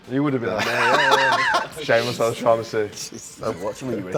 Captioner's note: laugh